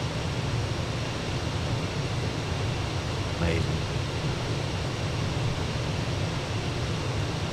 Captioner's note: radio chatter